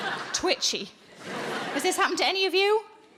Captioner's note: audience laughing